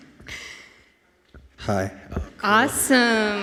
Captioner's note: laughing